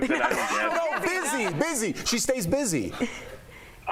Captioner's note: laughter